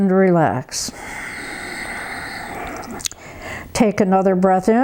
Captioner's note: breathes heavily